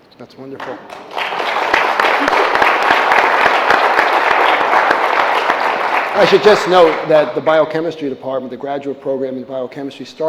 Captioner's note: applause